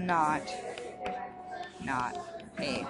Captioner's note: stylus taps